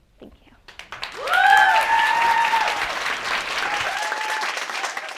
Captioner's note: crowd cheering